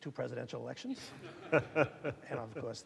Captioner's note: audience laughing